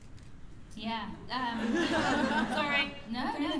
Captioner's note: laughter